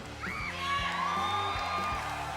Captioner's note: cheers and applause